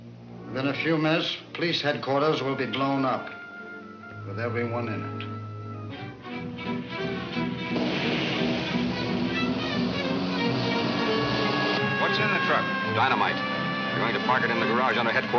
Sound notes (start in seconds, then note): 6.4 lively music; 10.4 siren wails